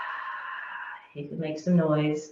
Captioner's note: deep exhale